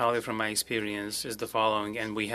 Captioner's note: speaking french